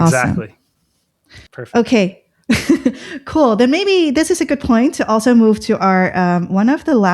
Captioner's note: laughter